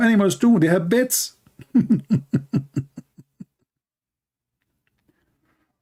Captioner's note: Ketawa